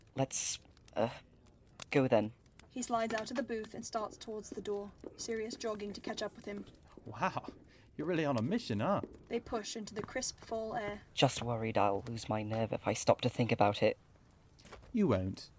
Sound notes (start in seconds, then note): 6.3 chatter and fire fade